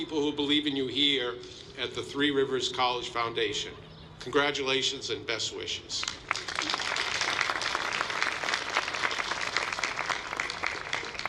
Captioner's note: applause